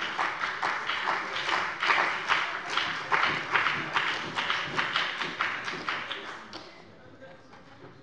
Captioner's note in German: Beifall bei dem BÜNDNIS 90/DIE GRÜNEN und der CDU